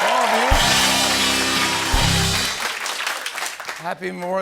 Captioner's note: cheering and applause